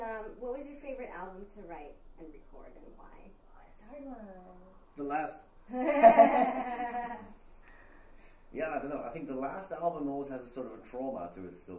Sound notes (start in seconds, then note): 5.7 all laughing